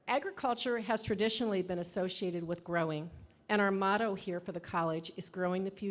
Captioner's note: none